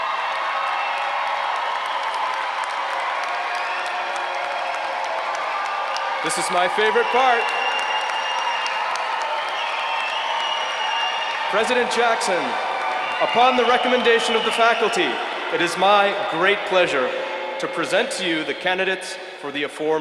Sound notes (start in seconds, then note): 3.5 applause